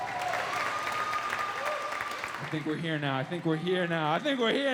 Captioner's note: audience cheering